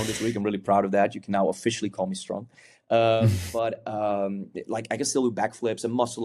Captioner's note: chuckles